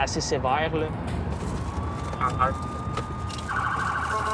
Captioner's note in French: à la radio